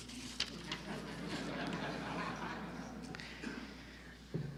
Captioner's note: audience laughter